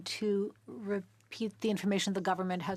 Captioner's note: speaking French